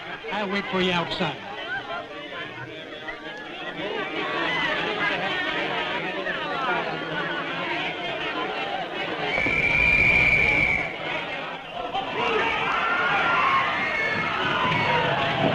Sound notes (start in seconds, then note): 2.6 chatter; 9.3 Raid whistle; 11.7 commotion